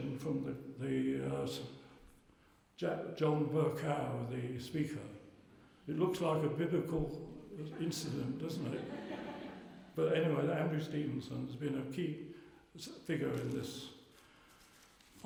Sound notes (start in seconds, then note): 7.5 laughter